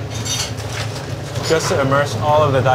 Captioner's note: food sploshing